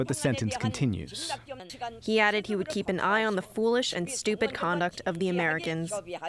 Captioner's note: through translator